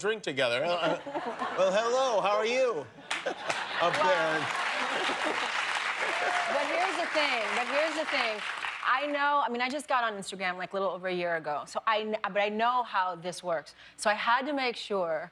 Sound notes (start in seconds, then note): 8.6 applause